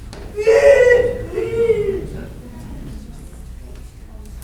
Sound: child shouting

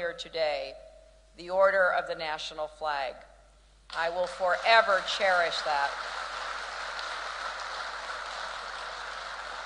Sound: applause

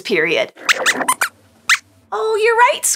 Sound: squeaks squeaks

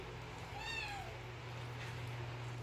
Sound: meaw

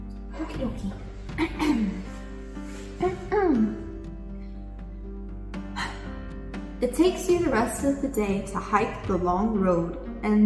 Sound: clears throat

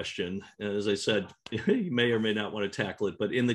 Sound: laughs

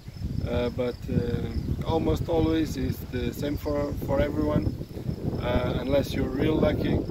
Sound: wind

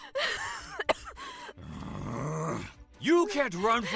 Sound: growls

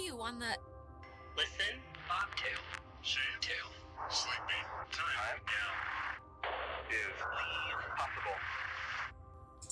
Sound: radio

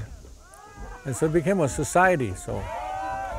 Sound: youth hollering

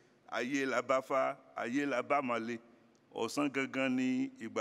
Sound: speaking foreign language

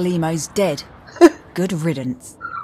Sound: chuckles

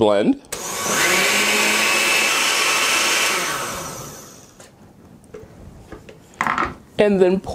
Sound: blender noise

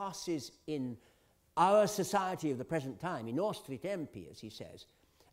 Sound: italian

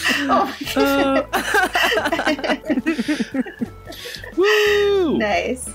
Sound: laughter

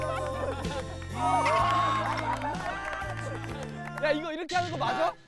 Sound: haha so fun

